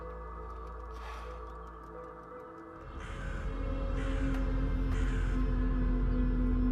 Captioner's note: deep haunting music; bird caws